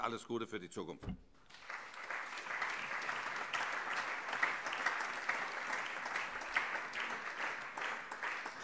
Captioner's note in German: Beifall